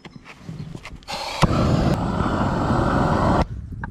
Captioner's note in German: brennerrauschen